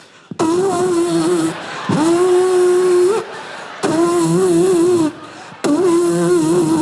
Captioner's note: Nick imitates liquid squirting furiously